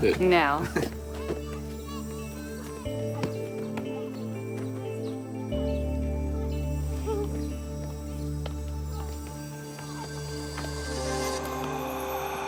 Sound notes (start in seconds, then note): 1.6 kids chattering; 10.0 eerie music